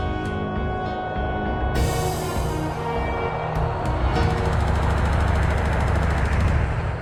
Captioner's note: plane sound